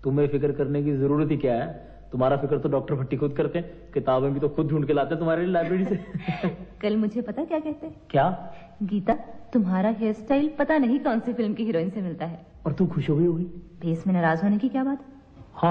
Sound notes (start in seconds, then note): 5.6 laughs